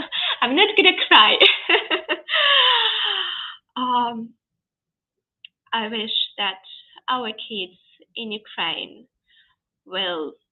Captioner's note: laughs